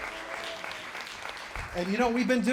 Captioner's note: applause